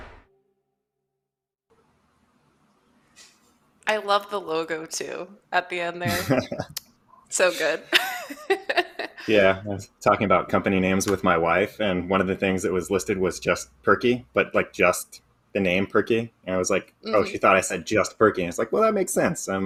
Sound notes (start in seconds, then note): 6.0 laughs